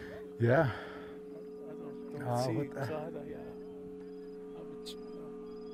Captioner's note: speaks in Navajo